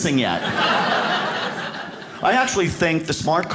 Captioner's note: audience laughs